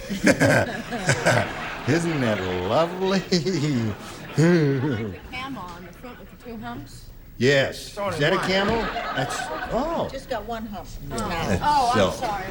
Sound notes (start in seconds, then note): 1.9 laughter; 4.1 laughter